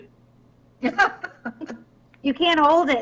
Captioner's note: people laughing